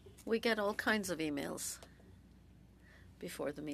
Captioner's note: speaking French